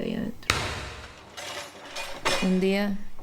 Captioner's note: loud noise